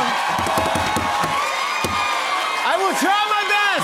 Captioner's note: cheers and applause